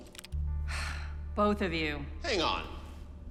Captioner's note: sighs